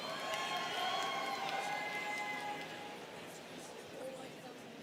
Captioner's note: students cheering